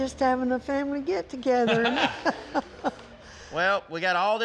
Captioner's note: grandma laughs